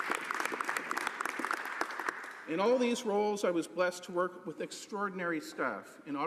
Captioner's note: some Applause